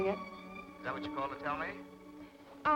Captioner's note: on telephone